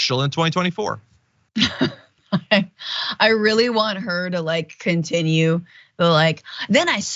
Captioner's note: laugh